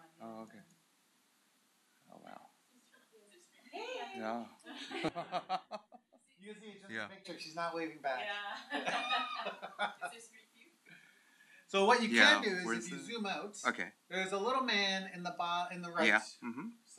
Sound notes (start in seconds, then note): 4.7 laughter; 8.6 laughter